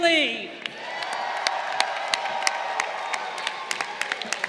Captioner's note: crowd cheering